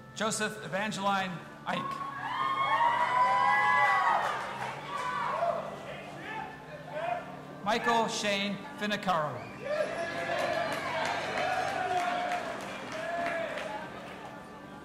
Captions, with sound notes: Josef Evangeline Eynck. (audience applauding and cheering) Michael Shane Finocchiaro. (audience applauding and cheering)